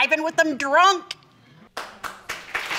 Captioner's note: audience applauds